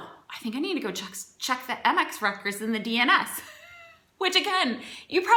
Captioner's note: laughs